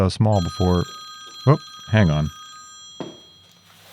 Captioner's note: phone ringing